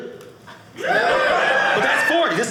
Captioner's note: audience cheering